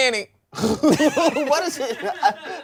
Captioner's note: everyone laughs